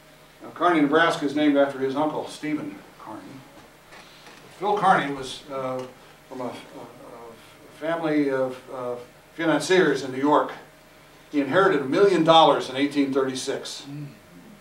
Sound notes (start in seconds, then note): none